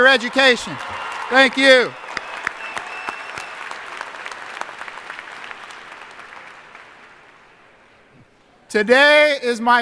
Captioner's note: applause